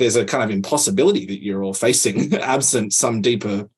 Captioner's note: laughs